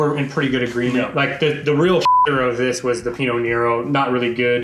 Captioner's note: beep